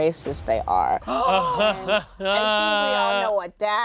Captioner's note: gasps; laughs